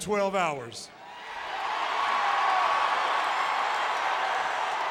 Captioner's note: crowd cheering